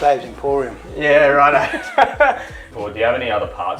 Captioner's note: he laughs